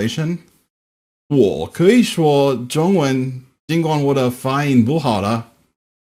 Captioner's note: presenter speaking in Mandarin; presenter speaking in German